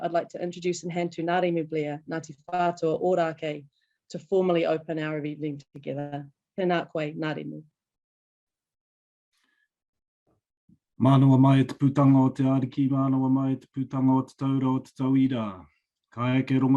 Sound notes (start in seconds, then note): 11.1 speaking foreign language